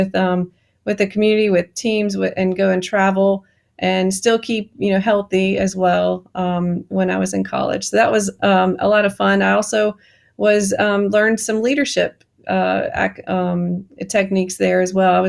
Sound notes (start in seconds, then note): none